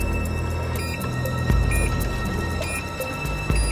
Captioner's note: beeping continues